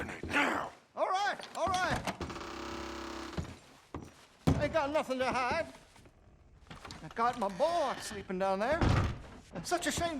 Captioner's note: scared